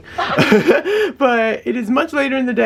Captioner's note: lols